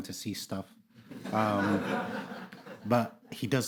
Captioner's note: audience laughing